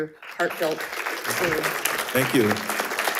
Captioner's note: faintly speaking